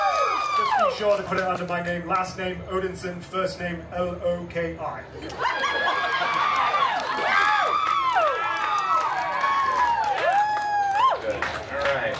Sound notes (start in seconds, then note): 5.1 guests laughing; 5.3 guests cheering and applauding